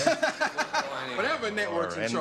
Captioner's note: laughter